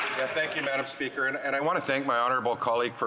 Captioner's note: applause